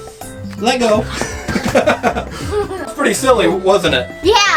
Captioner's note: laughs